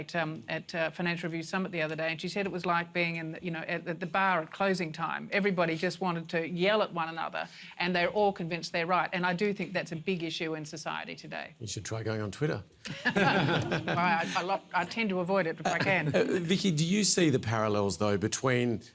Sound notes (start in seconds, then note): 12.8 laughter